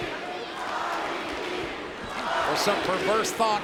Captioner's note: crowd chanting